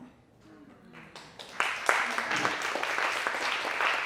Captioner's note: clapping